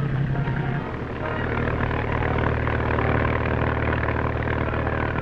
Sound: boat engine puttering

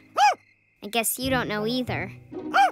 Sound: barks

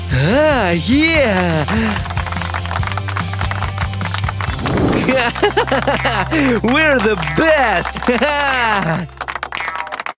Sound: cheering and congratulating

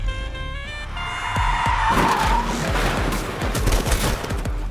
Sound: bike sliding

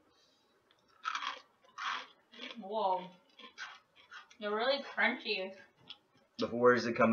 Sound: crunch

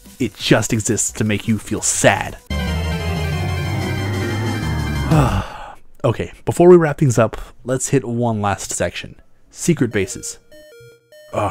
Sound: alarm

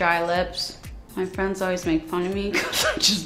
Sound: chuckles

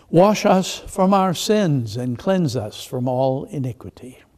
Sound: none

